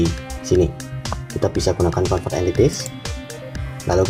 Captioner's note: click